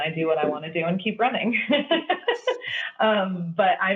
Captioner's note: laughing